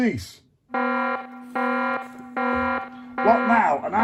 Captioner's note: alarm blaring